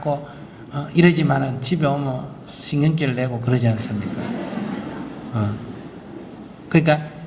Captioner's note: audience Laughter